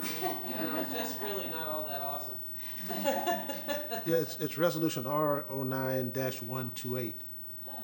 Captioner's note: laughter